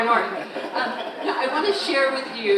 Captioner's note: all laughing